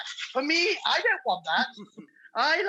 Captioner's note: laughing